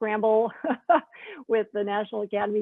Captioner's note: Jennifer laughing